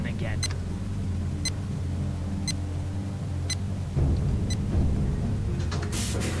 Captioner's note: beeping